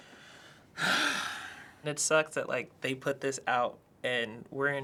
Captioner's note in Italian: sospira